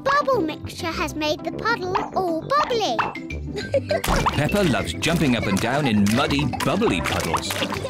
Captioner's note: laughs